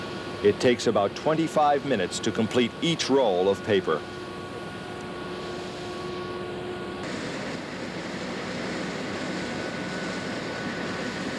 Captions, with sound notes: It takes about 25 minutes to complete each roll of paper. (machinery running)